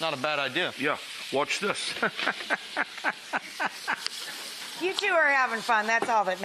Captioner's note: laughs